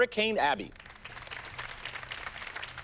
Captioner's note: applause